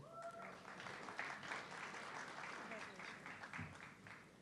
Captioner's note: audience clapping